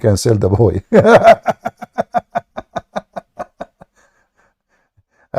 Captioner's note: Ketawa